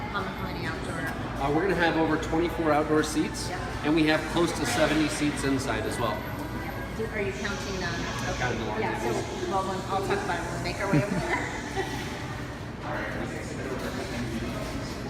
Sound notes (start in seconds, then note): 13.3 laughs